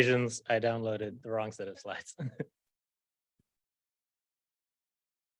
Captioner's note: chuckles